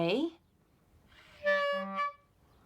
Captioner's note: squawks